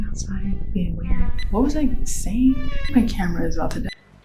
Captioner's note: beep sfx